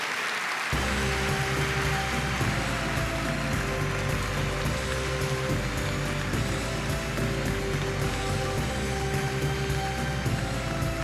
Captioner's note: applause